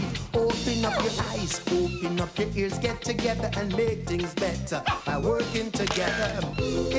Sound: camara snaps

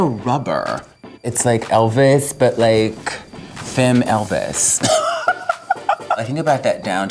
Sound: laughs

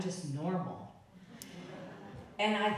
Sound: audience laughing

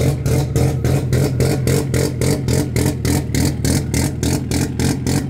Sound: car engine cycling

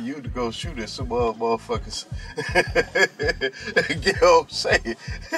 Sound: laughing

